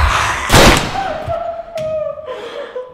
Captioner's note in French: Coup de feu. James se tait